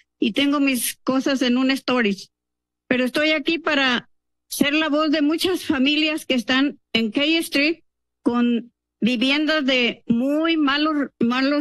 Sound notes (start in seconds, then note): 0.0 speaking in Spanish